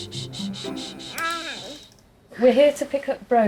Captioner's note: gurgling